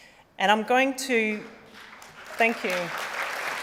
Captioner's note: applause